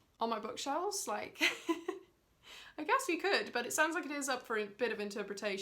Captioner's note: laughs